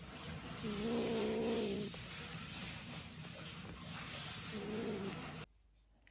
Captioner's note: growling → licking